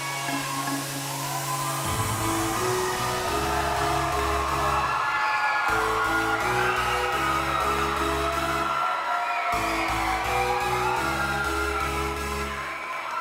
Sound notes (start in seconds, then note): 5.0 crowd cheering; 5.0 upbeat music